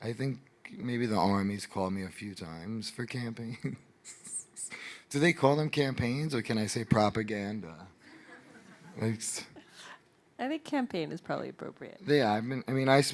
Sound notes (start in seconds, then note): 8.1 audience laughing